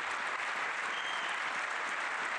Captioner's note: applause